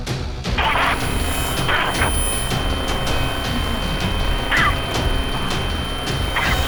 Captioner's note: static buzzing; high pitched ringing